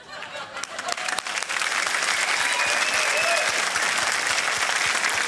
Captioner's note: laughter, applause